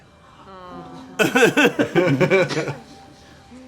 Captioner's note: gasps around the office